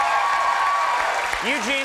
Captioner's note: audience clapping and cheering